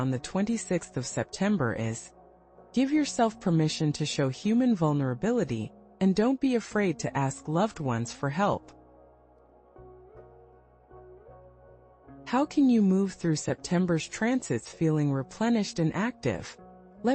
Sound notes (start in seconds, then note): 11.4 pause